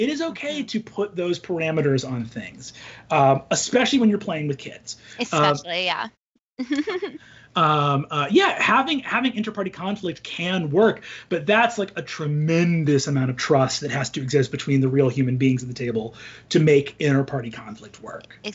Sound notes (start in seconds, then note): 6.6 laughs